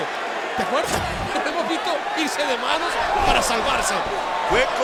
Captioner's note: laugh